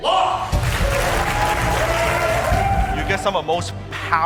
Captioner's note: crowd cheering